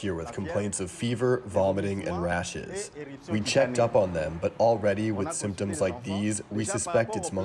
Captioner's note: speaking french